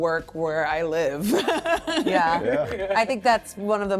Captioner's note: laughing